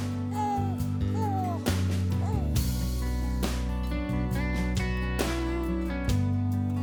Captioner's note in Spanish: Vagidos de la bebé